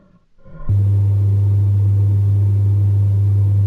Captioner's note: zumbido del motor